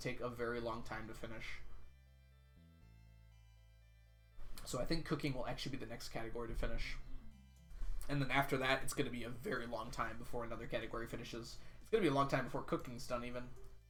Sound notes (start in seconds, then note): none